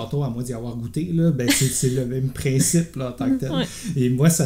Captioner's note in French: rires